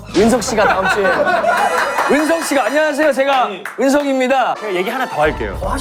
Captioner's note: A relaxed laugh of a strong person